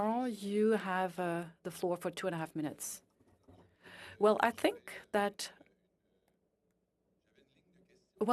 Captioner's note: speaking French